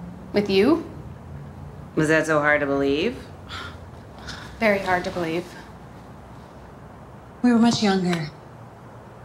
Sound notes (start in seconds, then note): 3.3 scoffs